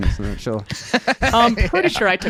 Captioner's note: laughing